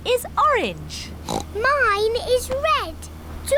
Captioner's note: oinks